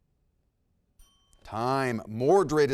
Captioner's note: bell dings